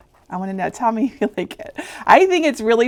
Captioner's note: chuckling